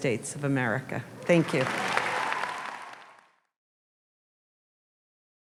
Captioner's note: audience applauds